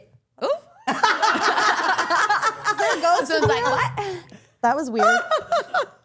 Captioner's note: all laughing